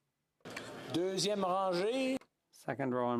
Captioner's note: speaking French